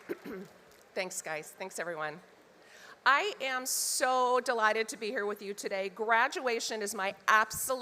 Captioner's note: applause